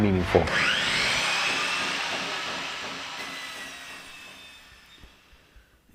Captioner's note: saw sound